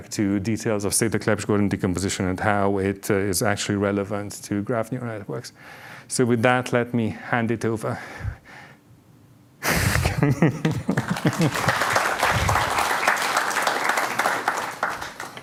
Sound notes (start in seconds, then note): 9.7 laughs; 10.7 applause